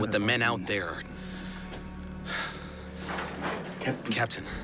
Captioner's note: Georg sighs